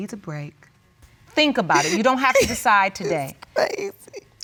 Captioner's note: sobbing